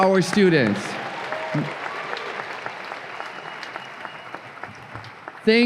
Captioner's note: audience applause and cheers